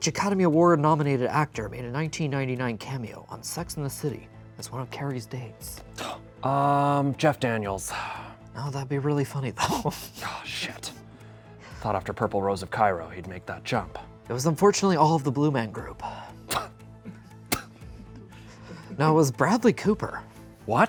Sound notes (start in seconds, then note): 5.9 sighs; 9.6 snickers; 17.8 stifling laughter